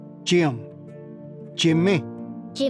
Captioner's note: repeats in Cherokee